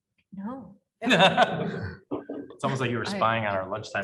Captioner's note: panel laughing